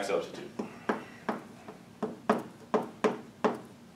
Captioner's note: chalk tapping